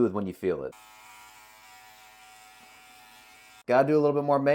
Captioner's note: trimmer buzzing